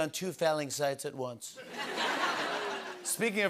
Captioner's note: laughter